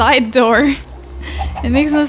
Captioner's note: laughs